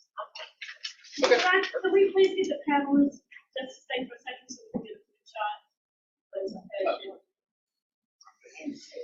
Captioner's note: audience speaking